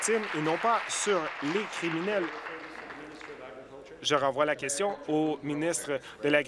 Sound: applause

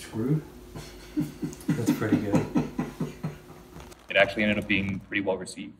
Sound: laughs

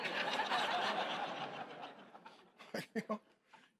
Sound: congregation laughing

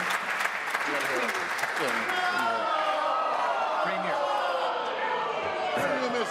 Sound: applause

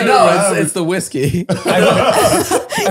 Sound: they laugh

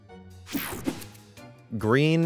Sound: transition zapping

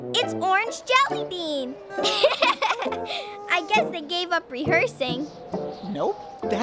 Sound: giggling

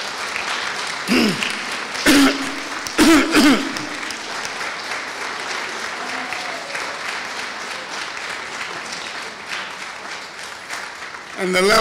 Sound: applause

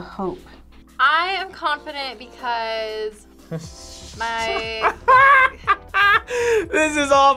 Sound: laughs

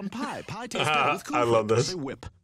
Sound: chuckles

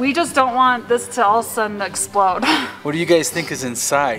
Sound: chuckles

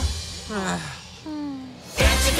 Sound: sigh

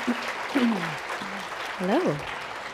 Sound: applause

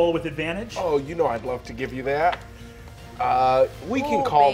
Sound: dice rolling

